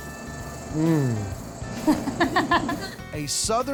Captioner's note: laughs